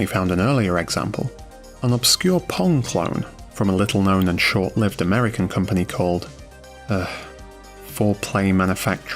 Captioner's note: sigh